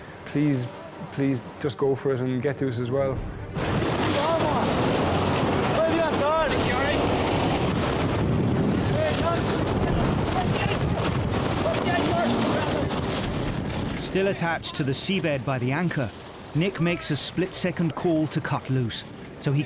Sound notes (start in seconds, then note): 4.0 wind drowns out speaker; 4.0 wind whooshing; 7.3 water whooshing; 10.3 wind whooshing